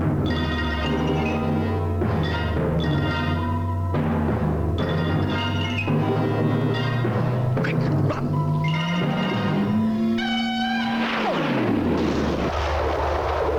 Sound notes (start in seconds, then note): 10.3 laser whizzes